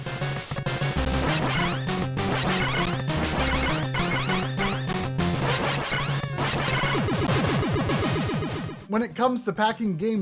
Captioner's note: Super C Game Audio